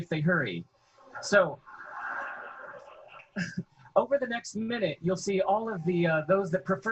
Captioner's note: chuckles